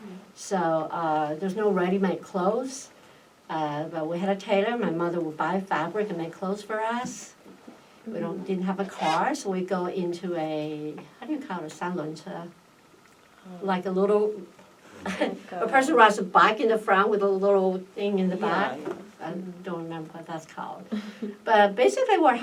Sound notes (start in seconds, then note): 15.0 laughs